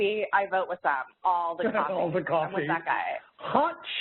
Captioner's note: laughs